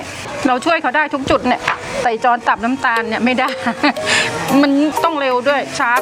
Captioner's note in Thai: เสียงหัวเราะ